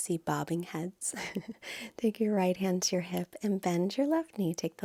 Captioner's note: chuckles